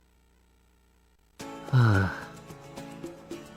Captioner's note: sigh